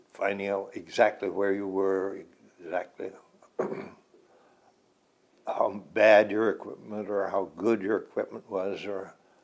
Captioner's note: clears throat